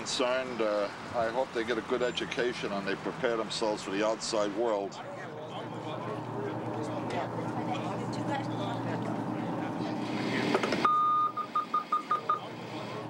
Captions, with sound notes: I HOPE THEY GET A GOOD EDUCATION, AND THEY PREPARE THEMSELVES FOR THE OUTSIDE WORLD. [ BEEPING ]